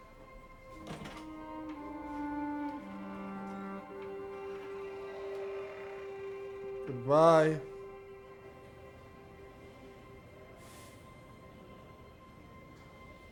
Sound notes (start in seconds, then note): 0.2 somber music; 10.1 sighs